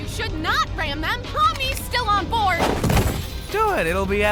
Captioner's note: crash!